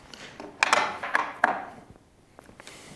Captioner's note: rattling